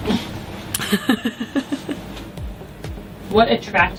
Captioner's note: laughs